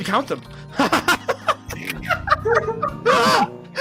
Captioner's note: harsh laughter, fading off into a genuine one; everyone giggling